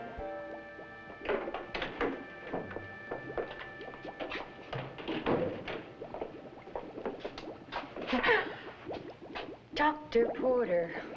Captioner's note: gasp